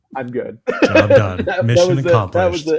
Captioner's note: laughs